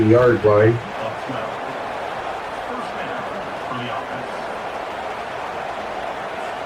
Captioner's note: crowd Noises